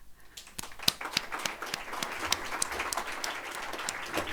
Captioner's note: audience applauding